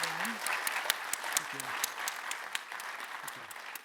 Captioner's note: audience applauds